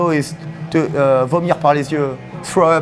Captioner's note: speaking in foreign language